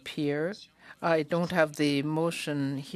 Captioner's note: speaking French